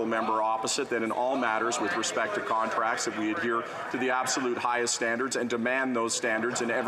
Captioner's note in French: voix de l'interprète